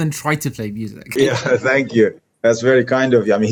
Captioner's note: laughs